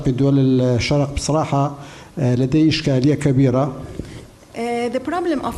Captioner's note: speaking in foreign language